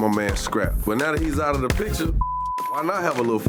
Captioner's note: beep